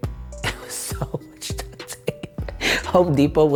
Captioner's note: laughing